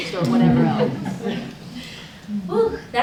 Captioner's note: laughter